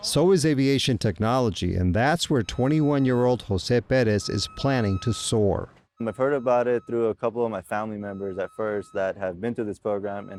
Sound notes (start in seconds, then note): 1.6 signal beeping; 6.8 signal beeping